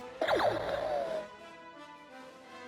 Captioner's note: blaster sound